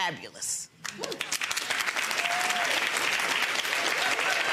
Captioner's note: audience applauds